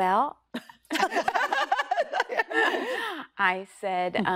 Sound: laughter

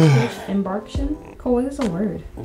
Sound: yawns

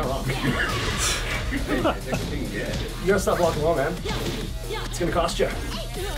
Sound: laugh

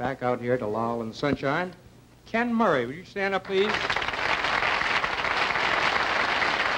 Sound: applause

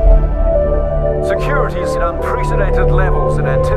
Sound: voiceover

